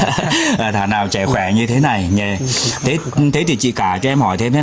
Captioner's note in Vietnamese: tiếng cười